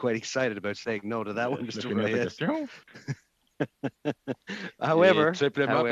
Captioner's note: laughter